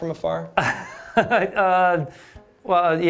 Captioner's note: laughter